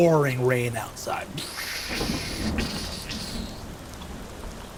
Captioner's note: thunder booming